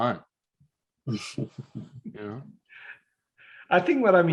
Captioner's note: chuckles